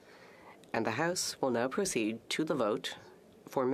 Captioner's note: speaking French